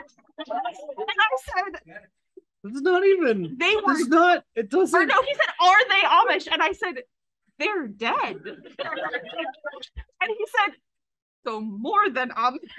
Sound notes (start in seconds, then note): 3.7 AUDIENCE laughs